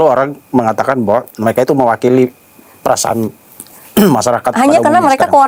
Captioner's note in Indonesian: berdehem